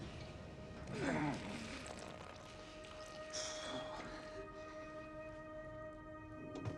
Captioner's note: pensive music; Teplov groaning